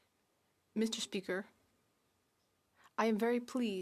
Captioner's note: speaking French